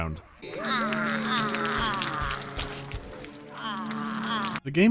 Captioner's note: minions' sighs of relief